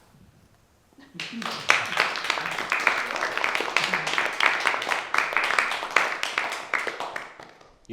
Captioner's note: applause